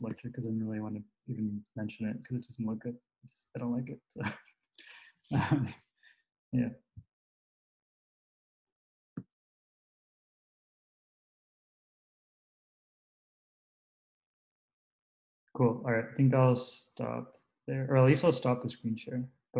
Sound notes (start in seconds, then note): 5.4 laughs